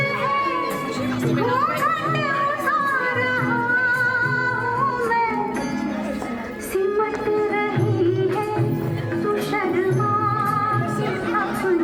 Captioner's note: children chattering